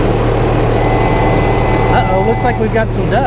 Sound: train horn blowing

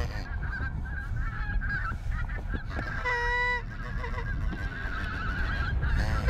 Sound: gees squawking

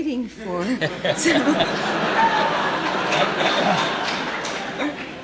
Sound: laughter

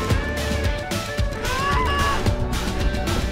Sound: screams

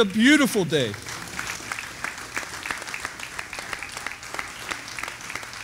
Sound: audience applauding

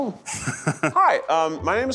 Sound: chuckling

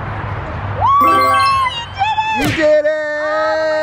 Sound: cheers

